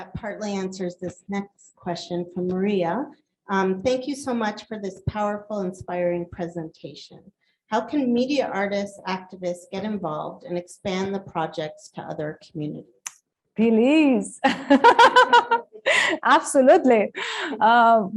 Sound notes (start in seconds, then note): 14.5 laughs